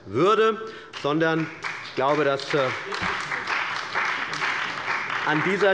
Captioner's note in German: Beifall bei der CDU und dem BÜNDNIS 90/DIE GRÜNEN